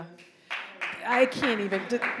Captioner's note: audience applauding